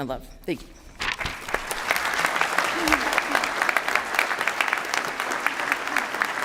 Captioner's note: applause